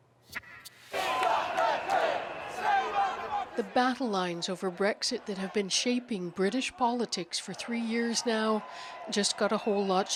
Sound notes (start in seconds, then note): 3.0 chants